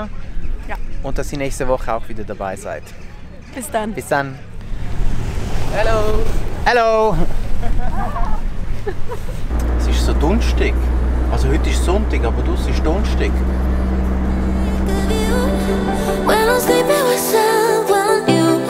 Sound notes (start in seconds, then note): 7.0 laughting